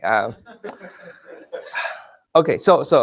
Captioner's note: laughing